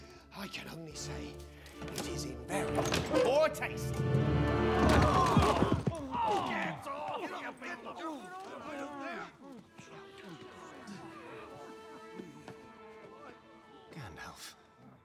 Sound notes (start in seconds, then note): 4.6 grunting; 7.0 dwarves chattering